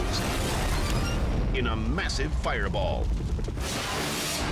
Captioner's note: explosion booming